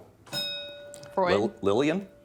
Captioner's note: bell dinging